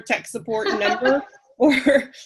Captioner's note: laughing